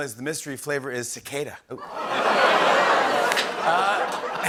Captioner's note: laughter, groaning